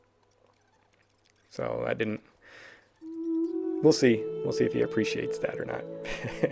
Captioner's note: ha ha